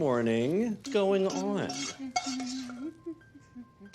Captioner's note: continues humming